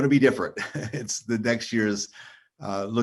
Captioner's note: chuckles